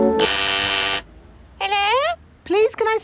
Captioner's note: doorbell ringing; over intercom